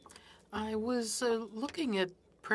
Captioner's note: speaking French